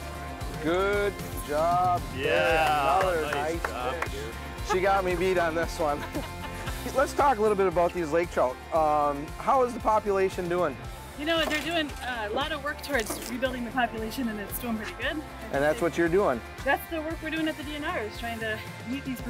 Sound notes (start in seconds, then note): 5.9 laughing